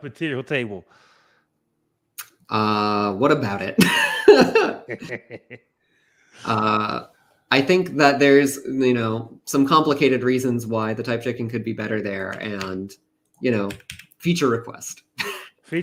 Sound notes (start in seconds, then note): 3.9 laughs